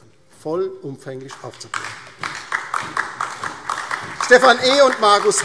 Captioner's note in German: Beifall DIE LINKE und vereinzelt SPD